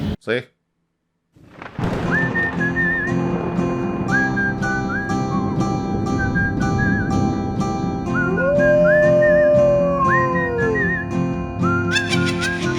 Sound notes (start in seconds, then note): 1.4 thunder clap; 1.9 whistles